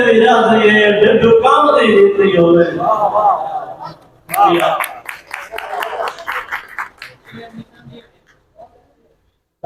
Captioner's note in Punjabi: ਤਾੜੀਆਂ